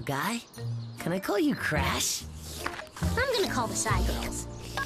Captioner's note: slurp!